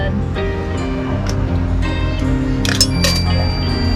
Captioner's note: inserting coin